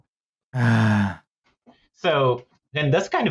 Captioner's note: sardonic sigh